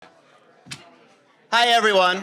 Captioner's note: indistinct chatters